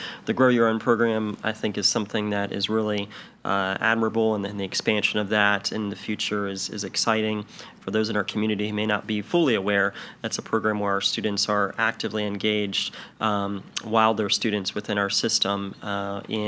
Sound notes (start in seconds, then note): none